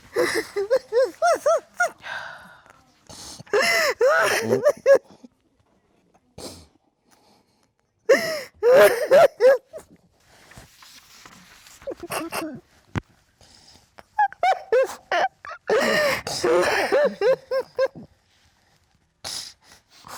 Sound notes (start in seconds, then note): 0.2 crying; 16.2 both crying